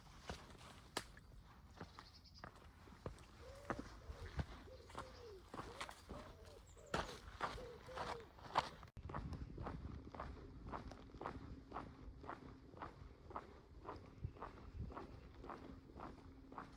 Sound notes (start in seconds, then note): 5.2 pigeon calling; 9.8 footsteps